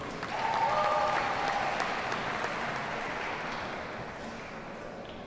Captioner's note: audience cheers and applauds